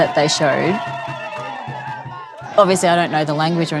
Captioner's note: crowd cheering